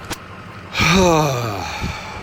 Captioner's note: HUGE sigh of relief